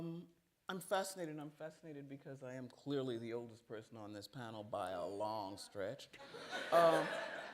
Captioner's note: laughter